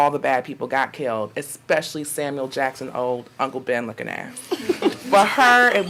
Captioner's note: audience laughing